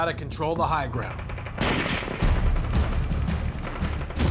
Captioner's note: sounds of battle